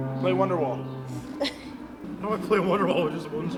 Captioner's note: deep Voice